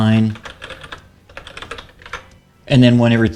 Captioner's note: typing